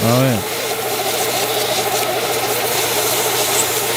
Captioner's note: vacuum whirring